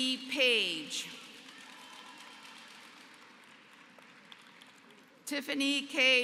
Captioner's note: applause